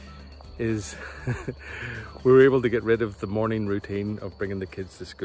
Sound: chuckles

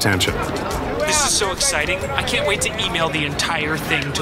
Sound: sounds of kids playing ball

